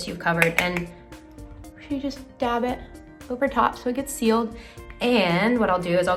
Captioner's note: brush taps